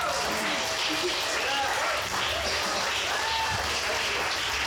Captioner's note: audience cheers